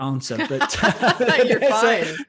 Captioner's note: both laughs